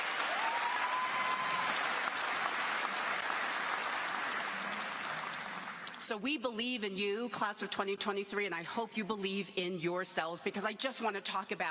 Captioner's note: applause